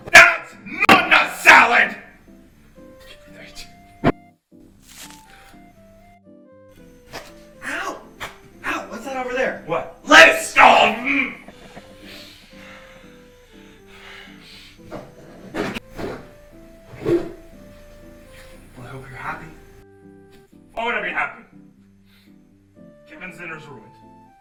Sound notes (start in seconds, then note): 11.0 grunts; 11.3 heavy breathing